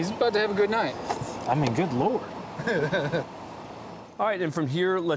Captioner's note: laughing